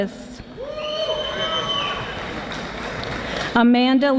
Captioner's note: audience applauding